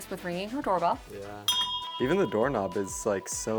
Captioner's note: bell dings